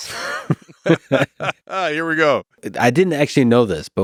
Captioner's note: both laughing